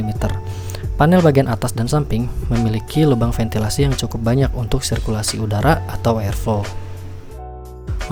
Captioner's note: airflow